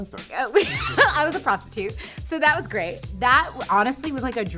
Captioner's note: laughing